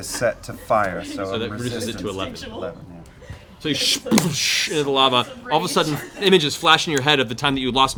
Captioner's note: splashing